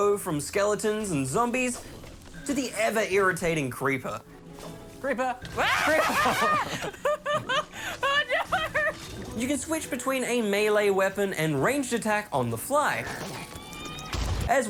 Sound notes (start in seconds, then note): 5.5 screams; 5.6 laughs